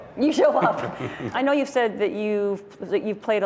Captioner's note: laughter